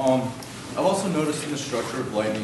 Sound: voiceover

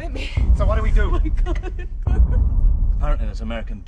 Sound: sobbing

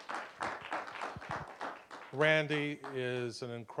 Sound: applause

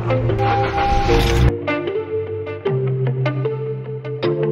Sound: lo-fi music; engine revving

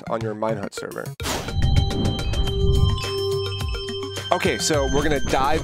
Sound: air whooshing

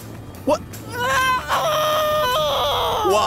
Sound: moans

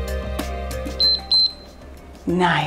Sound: timer beeps

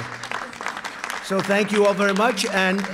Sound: applause

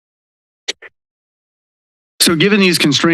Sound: pause

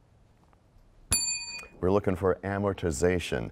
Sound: bell rings, time expires

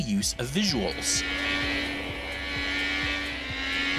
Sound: digital car engine

